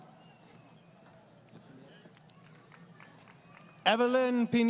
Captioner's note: applause